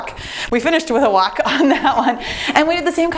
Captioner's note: laughs